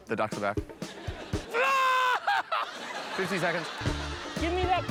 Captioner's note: laughs